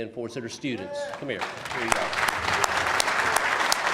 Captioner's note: applause